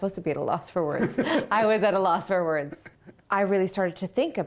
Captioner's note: laughter